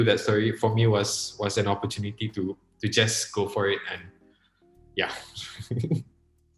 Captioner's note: laughs